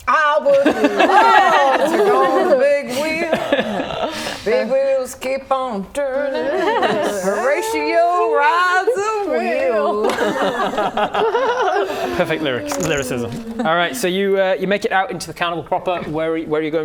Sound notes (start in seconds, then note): 10.2 laughing